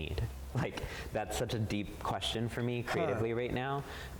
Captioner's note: chuckles